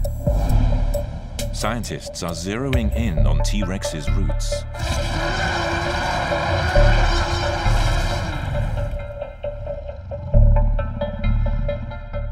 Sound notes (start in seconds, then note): 0.0 upbeat music; 4.7 growling